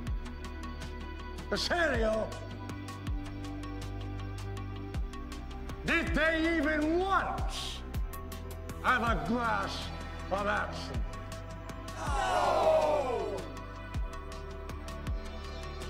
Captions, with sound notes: Hesario. Did they even once have a glass of absinthe? - [Crowd] No!